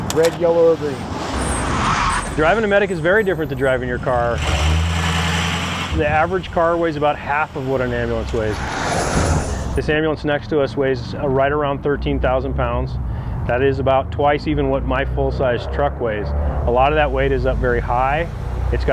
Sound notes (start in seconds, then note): 1.6 tires squeal; 4.7 engine revs